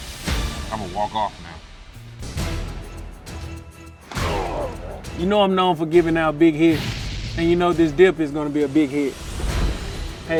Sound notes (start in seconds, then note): 3.2 boisterous music; 4.2 players grunting